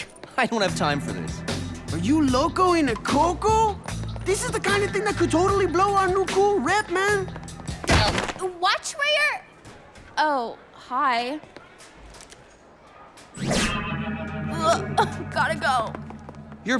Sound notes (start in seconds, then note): 7.7 thump